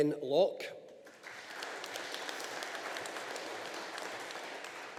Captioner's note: audience applauding